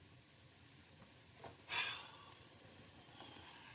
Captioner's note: sighs